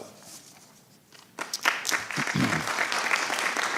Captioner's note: applause